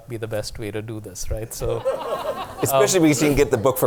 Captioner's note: laughter